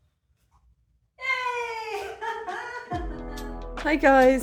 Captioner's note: cheering and laughing